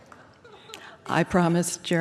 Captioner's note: laughter